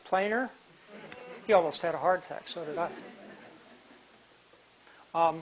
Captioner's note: laughter